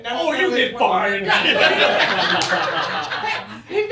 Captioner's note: laughter